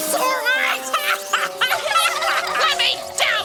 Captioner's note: laughter